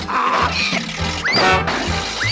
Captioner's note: motor sputters